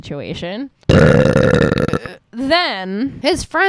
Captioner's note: big burp